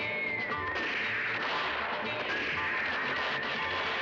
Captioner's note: gunshots